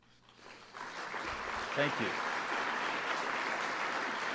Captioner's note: applause